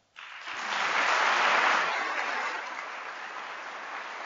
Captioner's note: applause